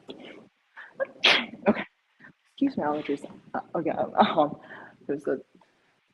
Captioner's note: sneezes